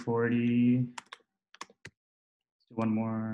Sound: typing

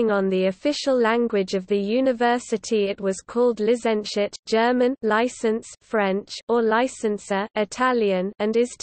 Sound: German; Italian

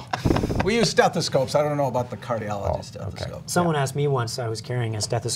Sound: laughter

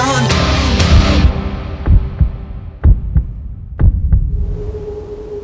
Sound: heartbeat pounding

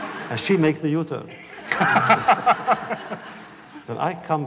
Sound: laughter

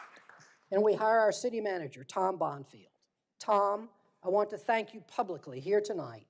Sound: applause

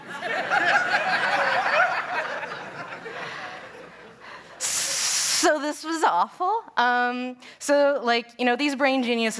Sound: laughter

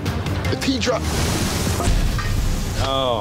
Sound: intense music; grill sizzling

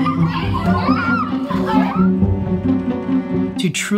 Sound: children shouting

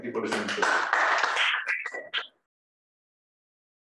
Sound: hands applauding

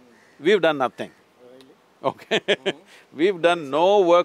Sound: laughs

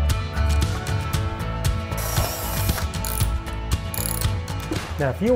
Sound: drilling sound

